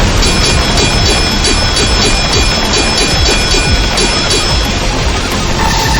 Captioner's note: electricity crackling; explosion booming; swords clanging